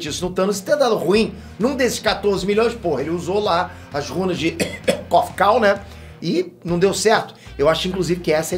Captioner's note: cough cough